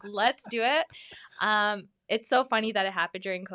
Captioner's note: laughs